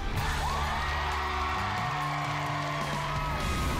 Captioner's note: crowd chanting "dr. phil!"; cheering and applause